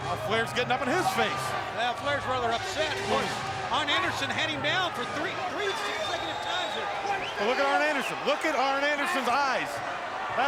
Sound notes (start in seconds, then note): 7.7 crowd clamoring; 9.6 crowd clamoring